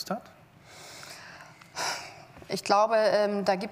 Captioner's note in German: Seufzen